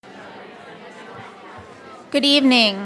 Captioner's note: crowd murmuring